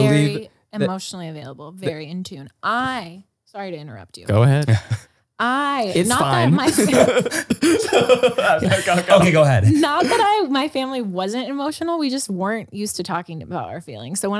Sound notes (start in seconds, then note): 5.9 laughs